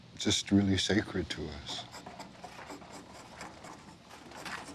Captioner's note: scraping wood